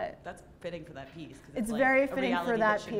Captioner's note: voiceover